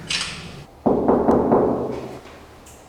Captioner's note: knocking